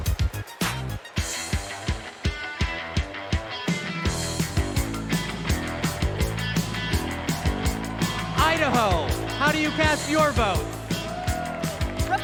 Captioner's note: cheers and applause